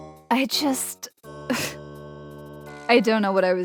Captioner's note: scoffs disbelievingly